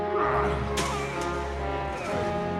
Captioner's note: roars